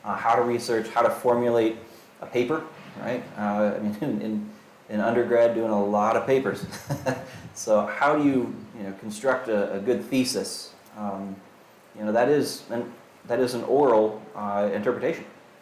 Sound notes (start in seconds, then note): 6.5 chuckles